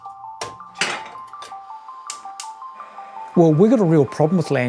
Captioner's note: burner ignites; kettle clangs